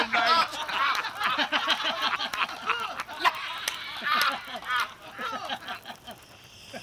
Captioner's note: laughter